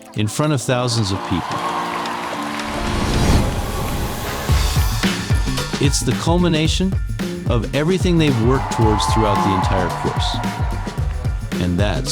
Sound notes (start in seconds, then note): 3.0 audience cheering; 3.0 playful music continues